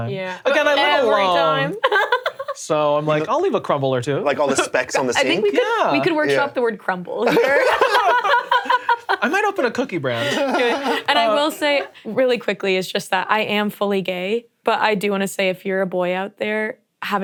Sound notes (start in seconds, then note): 7.2 all laughing